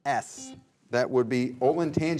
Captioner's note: buzzer buzzes